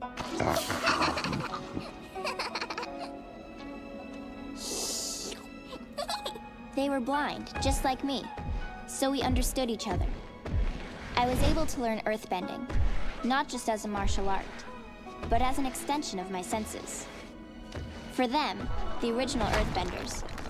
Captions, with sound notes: (Giggles) They were blind just like me. So we understood each other. I was able to learn earthbending. Not just as a martial art. But as an extension of my senses. For them, the original earthbenders,